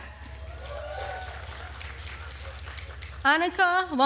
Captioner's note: attendees cheering and applauding